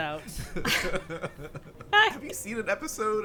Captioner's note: group laughing